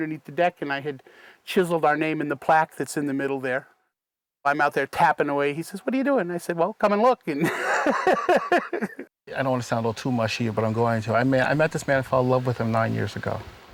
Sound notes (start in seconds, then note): 7.4 laughter